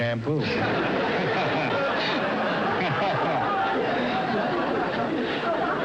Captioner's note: studio audience laughs